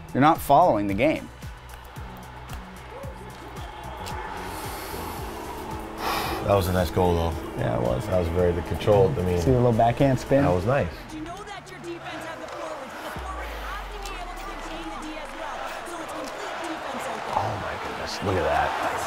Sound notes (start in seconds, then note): 1.6 crowd cheering; 5.8 exhales